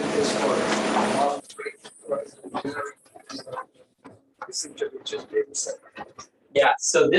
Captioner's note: indistinct conversation